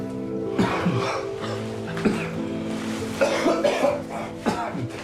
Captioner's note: coughing